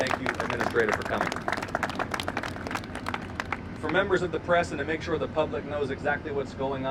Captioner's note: applause